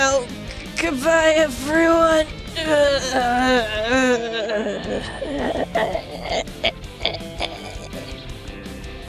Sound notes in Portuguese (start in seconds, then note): 2.2 ruídos de sofrimento incoerentes